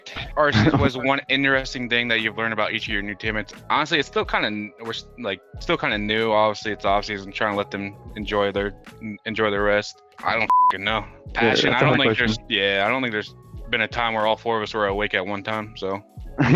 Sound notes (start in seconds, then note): 10.4 beep; 16.4 laughs